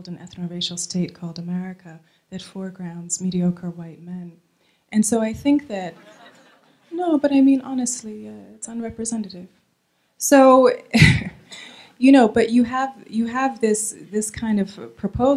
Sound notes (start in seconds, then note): 6.0 laughing